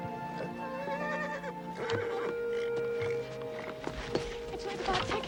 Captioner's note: horses neighing